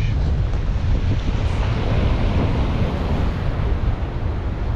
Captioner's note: waves crashing